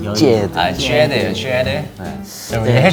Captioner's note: overly enunciating